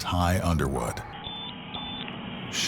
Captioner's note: two high-pitched beeps